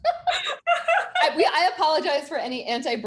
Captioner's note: both laughing